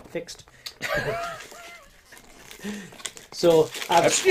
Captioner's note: laughing